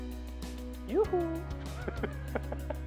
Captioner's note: laughing